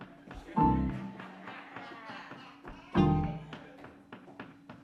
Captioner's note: audience laughing